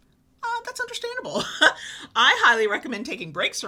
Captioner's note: laughs